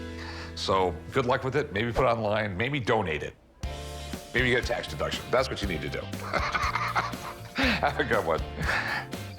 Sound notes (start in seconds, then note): 6.2 laughs